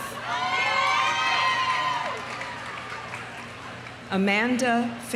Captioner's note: audience cheering; audience applauding